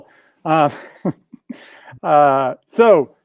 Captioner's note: chuckles